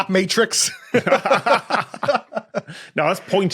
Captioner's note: laugh